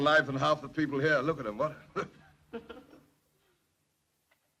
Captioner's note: laughs